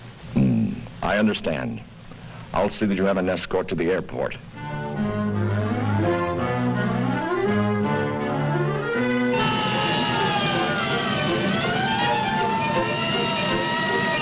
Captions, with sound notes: - Hm, I understand. I'll see that you have an escort to the airport. (light dramatic music) (sirens wailing)